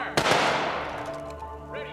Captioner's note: guns fire